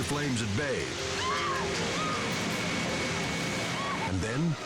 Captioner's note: mother screaming